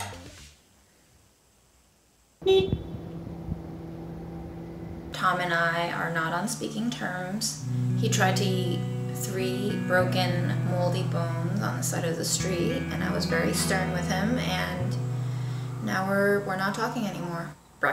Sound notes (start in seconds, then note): 2.4 car honking